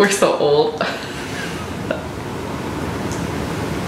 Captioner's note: laughter